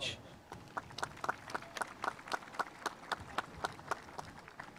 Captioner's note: spectators applauding